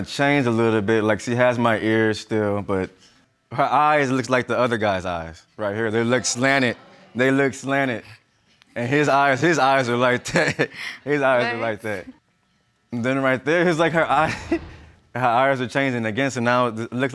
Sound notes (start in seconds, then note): 9.4 laughs; 10.2 giggles